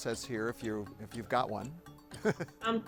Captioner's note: chuckles